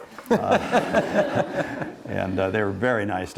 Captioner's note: laughing